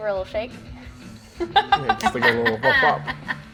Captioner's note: laughs